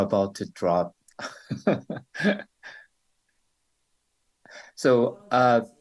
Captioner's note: questioner laughter